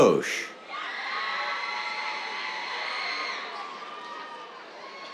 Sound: cheers

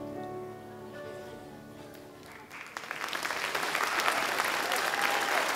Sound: audience clapping

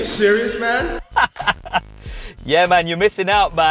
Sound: laughing

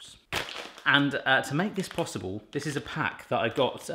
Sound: crinkling

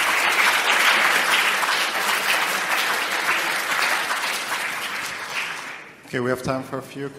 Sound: applause

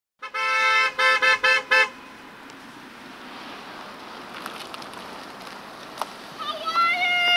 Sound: car horn honking

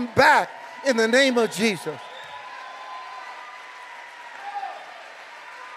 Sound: congregation cheering

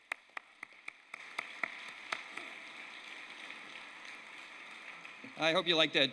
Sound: applause

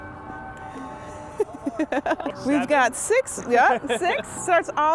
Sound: chuckles

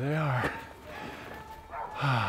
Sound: dogs barking

